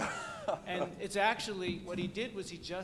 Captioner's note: laughter